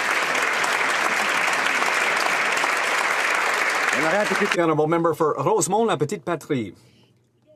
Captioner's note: applause